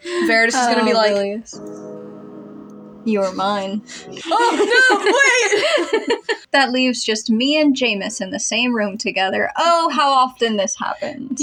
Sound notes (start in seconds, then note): 1.5 sensual Music; 3.9 laugh